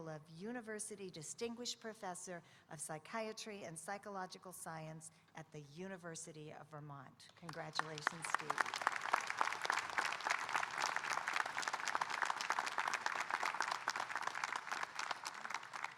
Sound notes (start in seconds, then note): 7.4 audience applauding